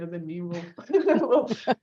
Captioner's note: both laugh